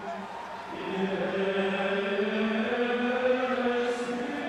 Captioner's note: group chanting